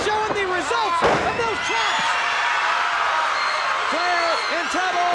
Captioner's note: body thudding; crowd cheering